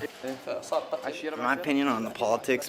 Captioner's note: Iraqi man speaking Arabic